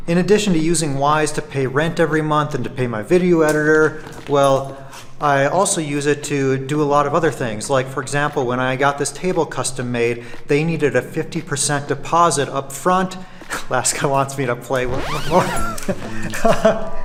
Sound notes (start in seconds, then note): 15.2 laughing